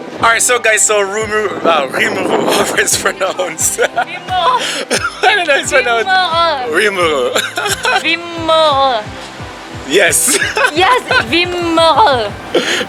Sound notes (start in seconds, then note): 3.7 laughs; 12.5 laughs